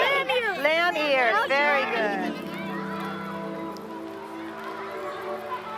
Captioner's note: voiceover